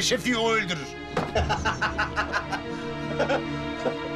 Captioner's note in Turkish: Gülme sesi